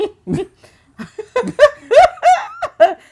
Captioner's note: laughing